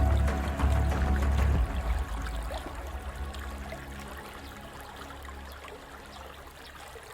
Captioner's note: edgy music continues; stream burbling